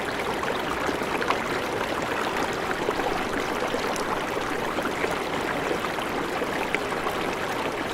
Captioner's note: the sound of water bubbling loudly